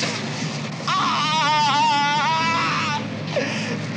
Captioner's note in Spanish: grita de dolor